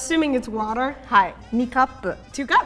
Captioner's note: speaking in Japanese